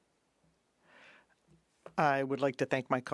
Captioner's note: speaking French